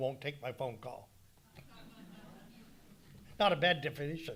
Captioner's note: audience laughing